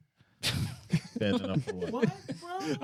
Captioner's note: laughing